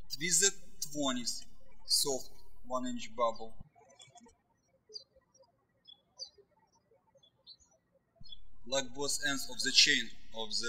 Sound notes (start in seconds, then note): 0.0 birds chirping; 4.9 birds chirping